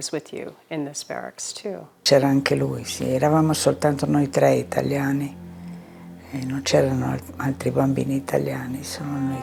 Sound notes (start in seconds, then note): 1.5 speaking in foreign language